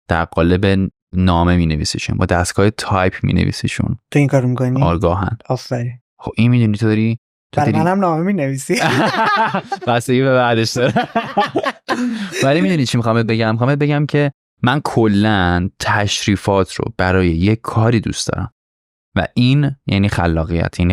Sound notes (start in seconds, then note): 8.8 laughs